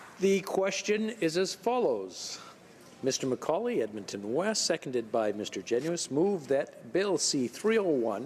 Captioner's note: applause